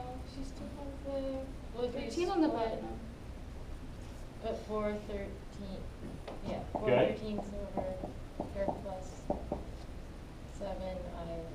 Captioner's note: background talking